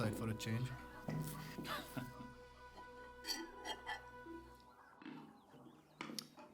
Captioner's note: chuckling